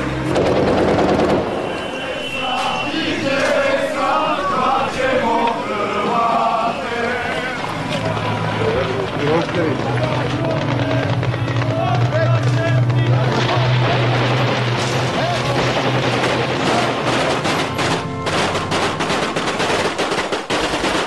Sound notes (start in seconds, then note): 0.1 distant machinery clattering; 0.3 gunfire banging; 3.1 soldiers cheering; 3.1 soldiers singing; 7.9 distant machinery revving; 8.0 helicopter blades whirring; 13.7 gunfire banging; 13.7 soldiers chattering; 15.5 semi-automatic gunfire clattering